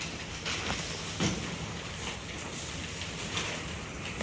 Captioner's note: in Unison; shuffling paper